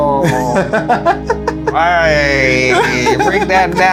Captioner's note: laughter